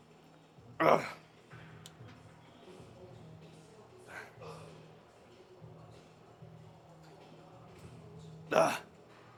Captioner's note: grunts; grunts